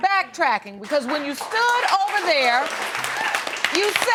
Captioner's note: audience applauding